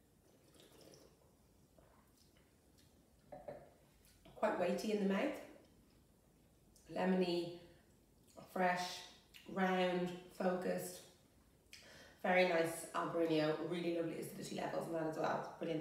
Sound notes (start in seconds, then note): 0.3 sound of wine being sucked into mouth